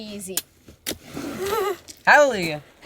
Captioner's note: both laugh